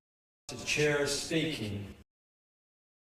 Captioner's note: echoing